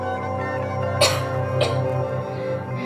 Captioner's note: coughing